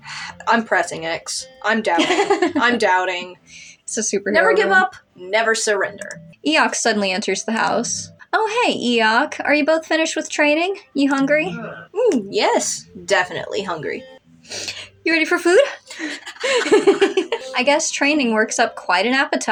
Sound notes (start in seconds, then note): 1.9 laugh; 15.6 laugh; 16.1 panting